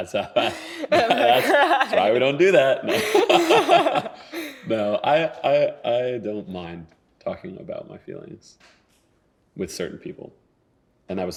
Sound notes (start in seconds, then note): 4.2 laughing